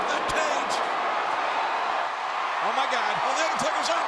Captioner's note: audience cheering